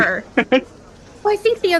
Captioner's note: laugh